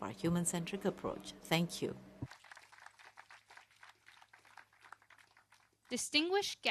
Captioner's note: applause